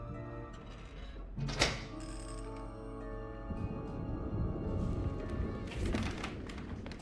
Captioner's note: tense music; safe clicking; tense music